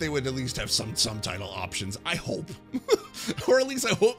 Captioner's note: laughs